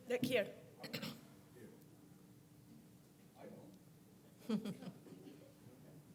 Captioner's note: cough